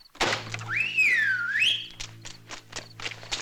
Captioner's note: whistling